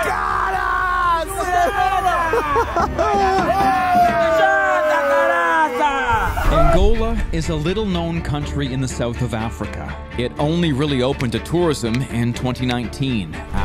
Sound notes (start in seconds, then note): 3.1 laughing; 4.7 locals speaking Portuguese